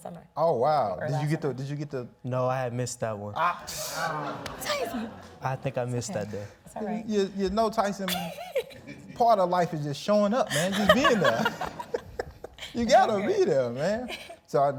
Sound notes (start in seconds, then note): 3.8 audience laughs; 11.2 laughing